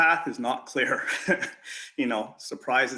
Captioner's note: giggles